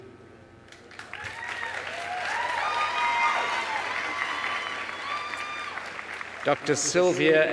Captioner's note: applause